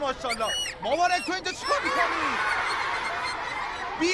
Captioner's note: children laughing